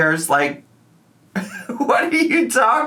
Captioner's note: laughs